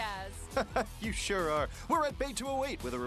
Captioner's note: laughs